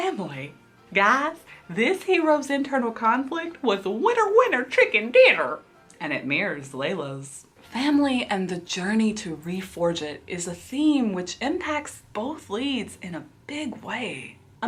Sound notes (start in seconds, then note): none